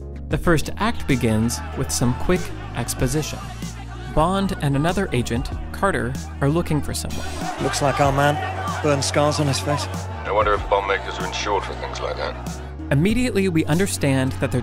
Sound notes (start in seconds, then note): 7.7 crowd yelling